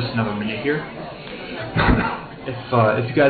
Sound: coughing

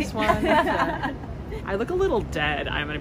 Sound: group laughing

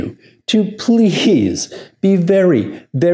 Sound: chuckles

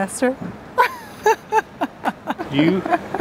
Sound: laughs

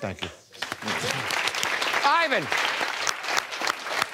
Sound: applauding

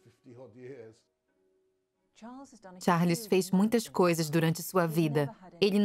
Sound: voiceover

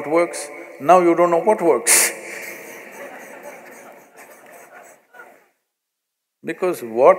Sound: laughter

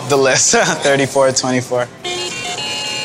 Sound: chuckling; lottery machine winning chime

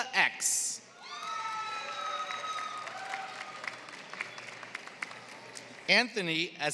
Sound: applause

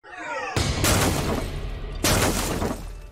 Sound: crashing

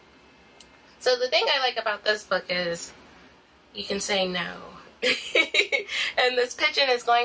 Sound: laughing

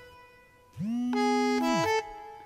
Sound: alarm

